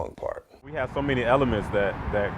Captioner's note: wind whooshing